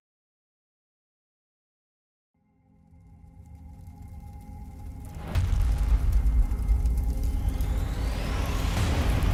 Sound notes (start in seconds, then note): 3.2 fire crackles